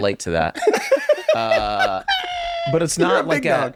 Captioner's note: laughing